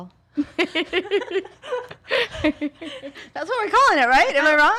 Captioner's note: all laughing